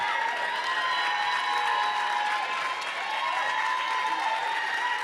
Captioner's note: applause continues